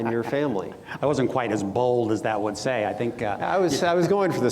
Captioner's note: laughs